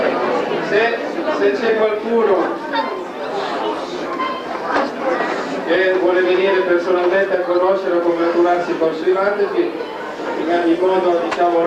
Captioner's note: italian